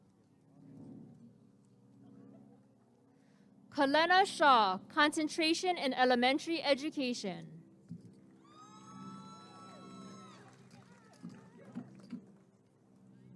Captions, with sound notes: Kalena Shaw Concentration in Elementary Education [applause and cheering]